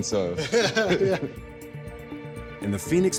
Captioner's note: man chuckling